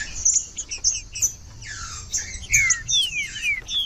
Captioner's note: trinca ferro cantando